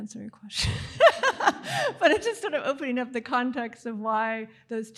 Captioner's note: laughs